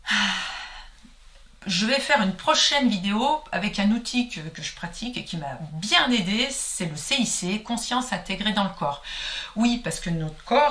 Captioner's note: sigh